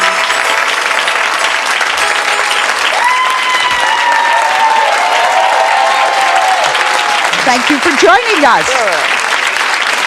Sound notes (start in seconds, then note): 2.6 audience cheering